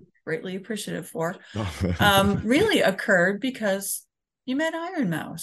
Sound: laughs

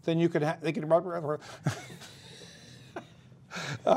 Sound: laughter

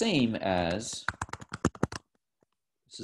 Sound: typing

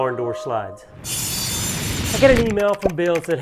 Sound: sharp cutting sound

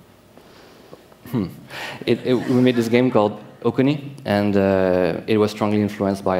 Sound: laughter

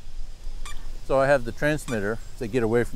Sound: device beeping

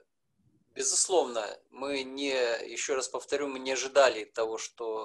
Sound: speaking foreign language

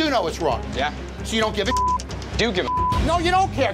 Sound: beep

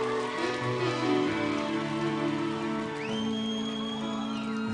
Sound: audience cheering

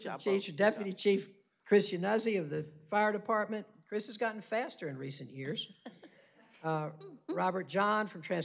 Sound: laughter

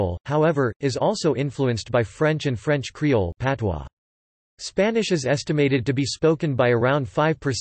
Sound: patois

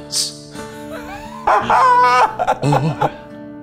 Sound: laughing

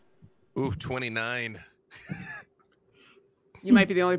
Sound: laughs

